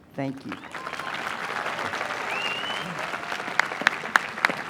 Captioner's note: applause